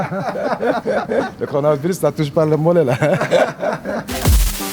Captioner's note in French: rires